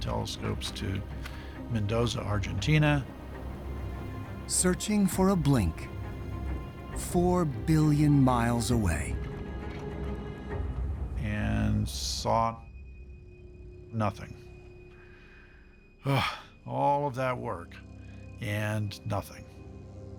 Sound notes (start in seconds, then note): 16.0 sighs